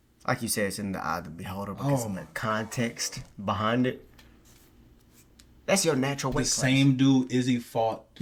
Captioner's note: none